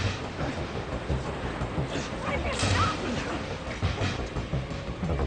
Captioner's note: Luke struggles and groans; action music